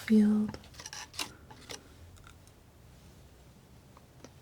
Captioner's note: scratching